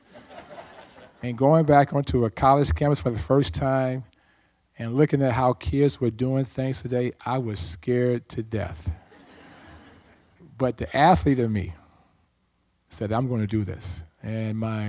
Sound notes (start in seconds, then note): 9.1 audience laughs